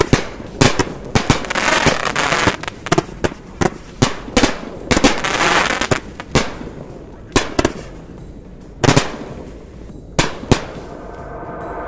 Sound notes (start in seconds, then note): 0.0 firework crackling; 1.1 firework popping; 4.3 firework crackling; 4.8 firework popping; 8.1 firework crackling